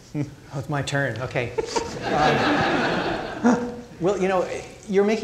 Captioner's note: crowd laughing